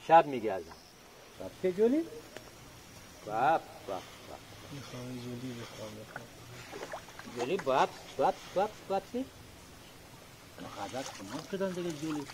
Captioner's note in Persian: صدای صحبت کردن با گاندوها